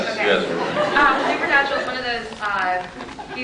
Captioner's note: scattered laughs